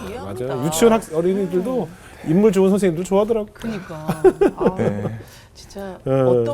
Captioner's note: laughing